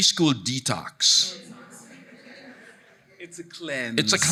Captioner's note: audience murmuring